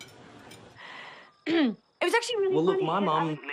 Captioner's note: clears throat